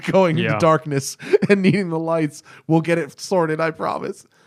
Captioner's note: laughter